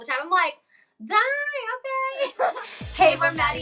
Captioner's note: laughs